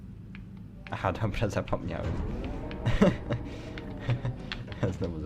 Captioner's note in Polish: śmiech